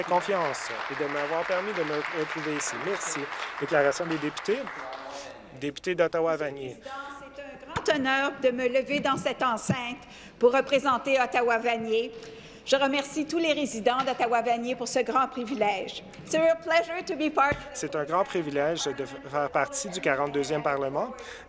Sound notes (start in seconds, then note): 4.1 some Applause; 9.4 speaking French